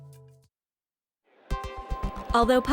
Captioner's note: silence